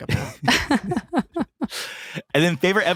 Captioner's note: laughing